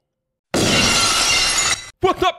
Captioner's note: glass shattering